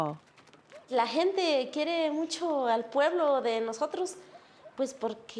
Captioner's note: speaking Spanish